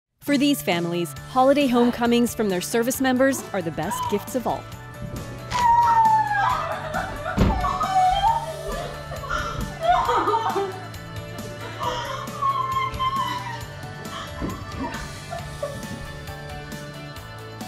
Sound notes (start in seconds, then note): 5.4 crying; 14.3 joyful holiday music